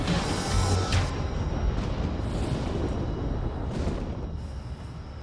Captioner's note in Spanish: ruido de la tormenta